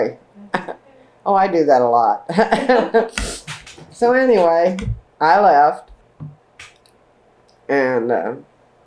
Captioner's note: laughter